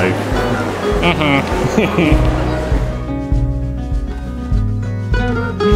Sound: laughs

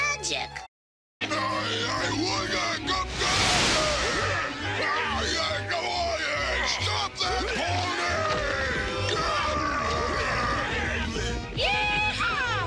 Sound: yelling

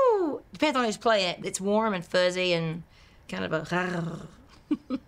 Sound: purrs; laughs

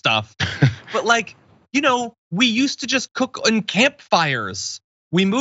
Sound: laugh

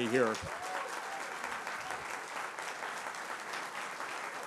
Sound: applause

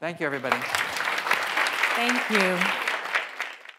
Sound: audience applauds

